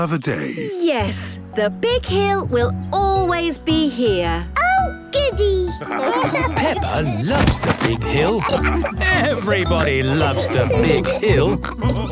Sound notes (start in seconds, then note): 5.8 laughter; 7.3 squeaking